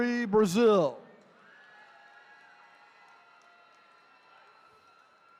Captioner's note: attendees cheering